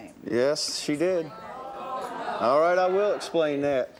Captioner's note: audience stirs